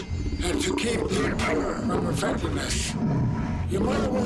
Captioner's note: growling